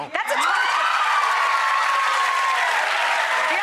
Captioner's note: cheering